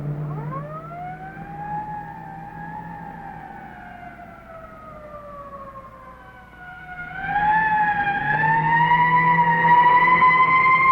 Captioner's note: siren wails as police pursue